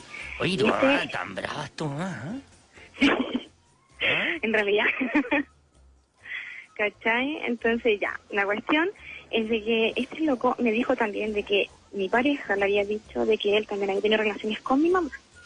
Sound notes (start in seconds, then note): 2.8 laughs